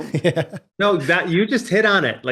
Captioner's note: laughing